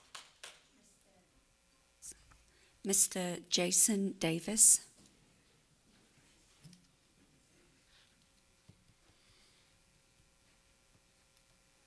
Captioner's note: applause